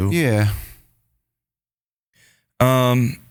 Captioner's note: sighs